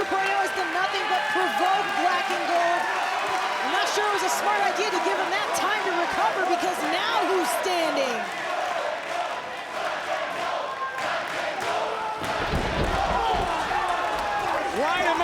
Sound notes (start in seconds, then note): 10.0 crowd chanting